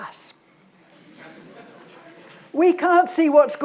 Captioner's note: audience laughs